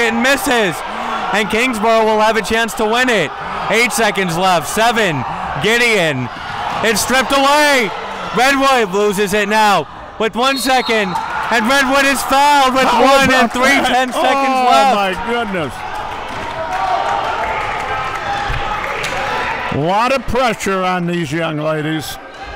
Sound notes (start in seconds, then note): 10.4 referee blows whistle; 16.3 crowd clapping